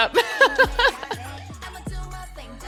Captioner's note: laughs